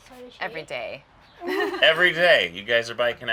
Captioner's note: laughing